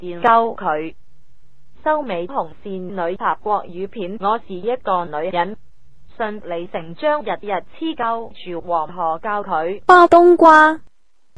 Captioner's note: Mandarin